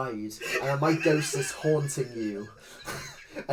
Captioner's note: wheezing laugh